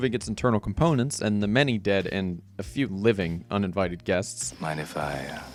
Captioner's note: audible Disgust